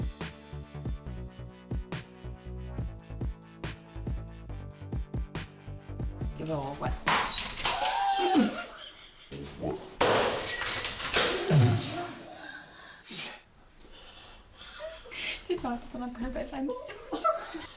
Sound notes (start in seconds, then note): 0.0 upbeat music; 7.0 can crashes; 7.6 gasps; 10.0 can crashes